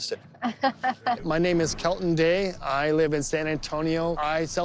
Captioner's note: laughing